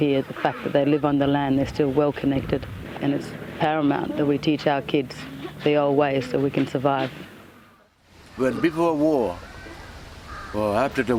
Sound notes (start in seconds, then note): 7.5 speaks English